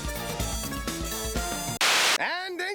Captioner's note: static crackles